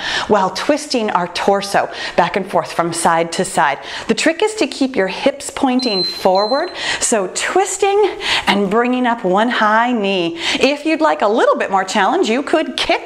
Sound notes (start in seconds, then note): 5.7 timer beeping